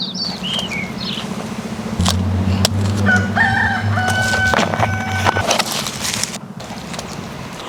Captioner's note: crowing of rooster